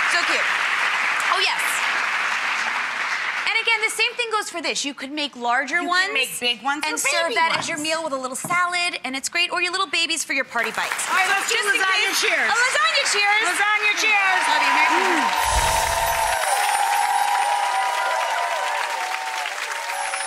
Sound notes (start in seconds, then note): 10.8 applause; 14.5 applause and cheering